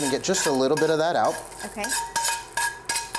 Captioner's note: skillet clanking